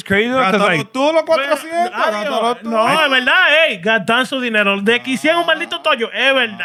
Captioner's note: speaking Spanish